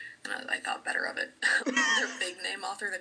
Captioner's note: wheezey laugh